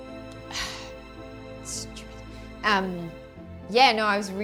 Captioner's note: sighs and speaks indistinctly